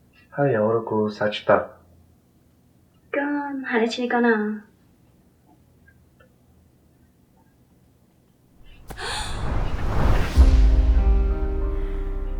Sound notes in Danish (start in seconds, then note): 8.6 whoosh; 10.4 dramatisk musik